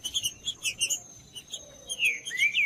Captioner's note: trinca ferro cantando